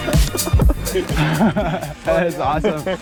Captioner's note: chuckles